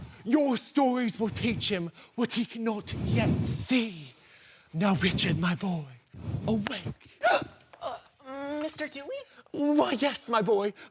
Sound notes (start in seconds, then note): 4.0 heavy breathing; 6.0 heavy breathing; 7.2 surprise grunt